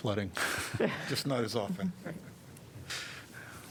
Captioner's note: laughter